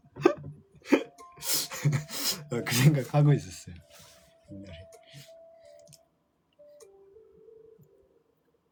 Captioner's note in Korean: 웃음